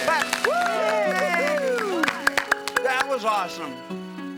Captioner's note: family cheering